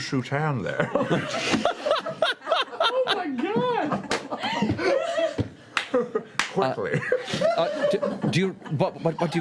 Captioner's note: laughter